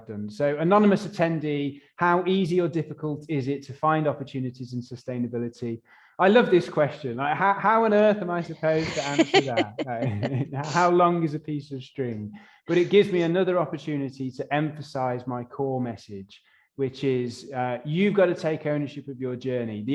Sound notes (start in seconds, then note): 8.6 laughs